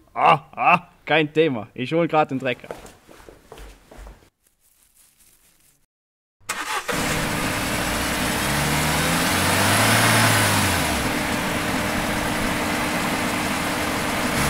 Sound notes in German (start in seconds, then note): 4.3 Stroh raschelt; 6.5 Motorgeräusch